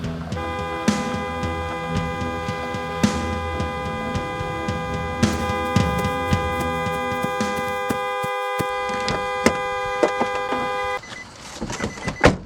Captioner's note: horn going off